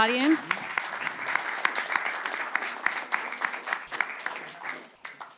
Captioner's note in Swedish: Applåder